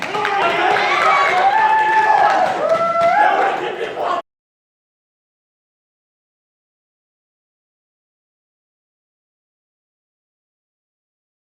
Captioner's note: crowd cheering